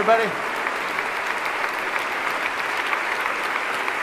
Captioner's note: applause